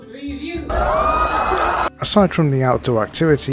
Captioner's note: audience goes wild!